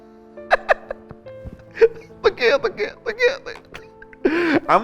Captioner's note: laughs